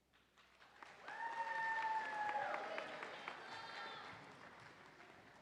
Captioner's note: audience applauding